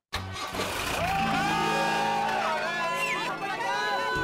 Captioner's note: cheering